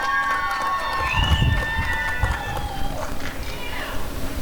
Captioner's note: applause and cheering